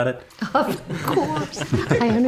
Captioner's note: everyone giggling